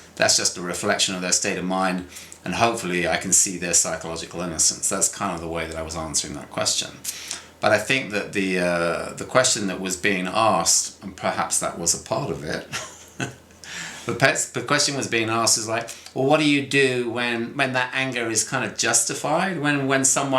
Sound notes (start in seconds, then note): 12.6 laughs